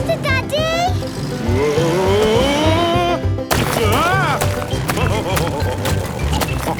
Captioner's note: laughing